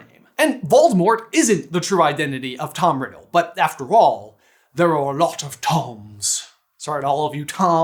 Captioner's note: accented